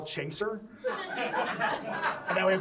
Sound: audience laughs

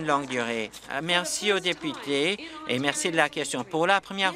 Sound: applause

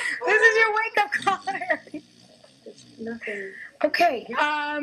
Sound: laughs; snoring gets louder

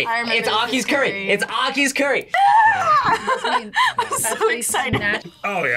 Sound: squeals and laughs

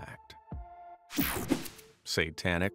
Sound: screen whooshing

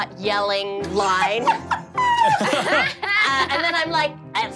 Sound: laughing

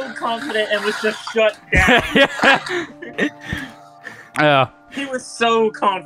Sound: laughing

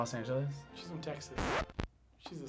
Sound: record scratches

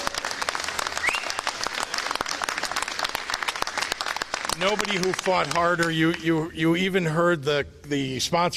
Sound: applause

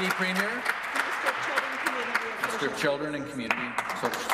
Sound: applause

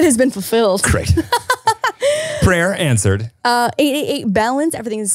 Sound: laughing

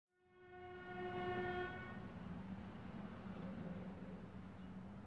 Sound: traffic and car horns

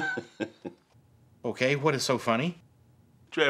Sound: laughter

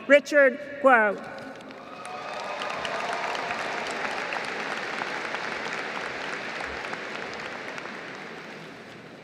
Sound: applause

